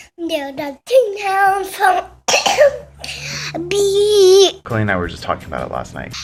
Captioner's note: coughs